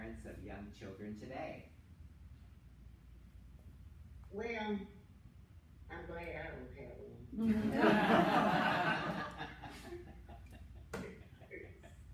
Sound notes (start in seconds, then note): 7.4 laughter